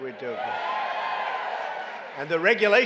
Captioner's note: applause